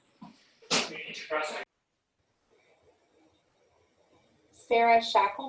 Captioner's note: ghostly Voice